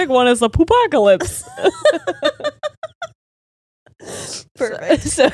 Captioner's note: all laughing